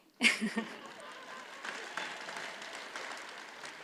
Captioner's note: audience applauds